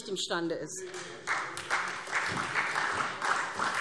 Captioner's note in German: Beifall SPD